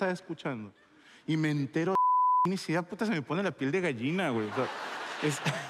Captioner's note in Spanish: bip